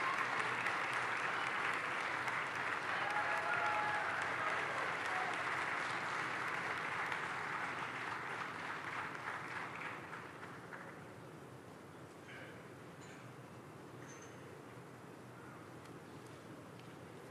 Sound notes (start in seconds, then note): 4.9 cheering and Applause